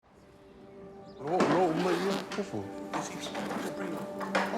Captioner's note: crew chat, gear clatters